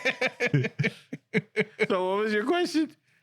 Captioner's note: laughing